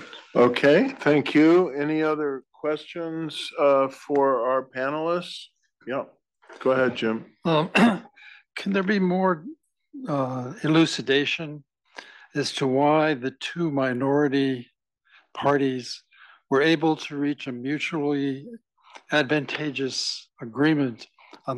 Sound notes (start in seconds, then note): 7.7 cough